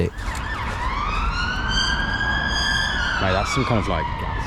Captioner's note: siren blaring